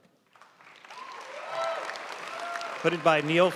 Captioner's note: audience cheering and applauding